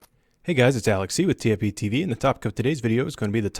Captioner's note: voiceover